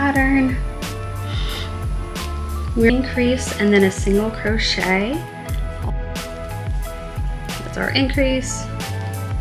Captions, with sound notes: all the way around. (paper rustling)